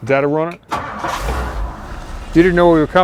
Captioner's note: car revving